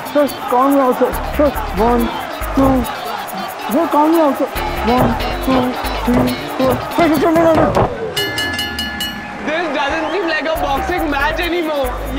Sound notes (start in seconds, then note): 8.1 Bell rings